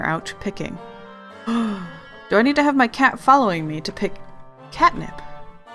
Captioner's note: gasp